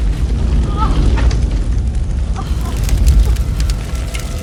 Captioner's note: Kody groans